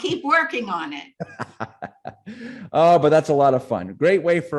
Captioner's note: laughing